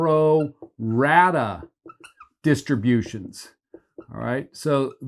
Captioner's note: marker squeaking